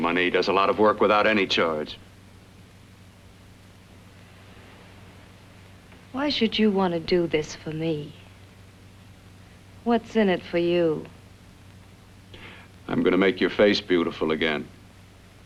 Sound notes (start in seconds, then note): none